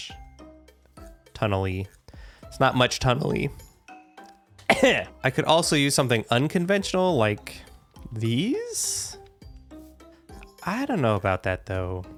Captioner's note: cough